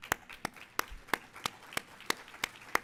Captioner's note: applauding